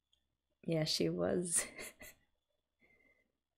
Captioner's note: laughs